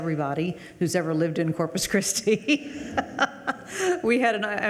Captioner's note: laughs